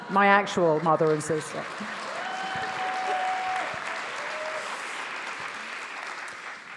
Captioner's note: attendees cheering; attendees applauding